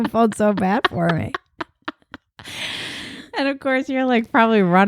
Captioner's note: laughing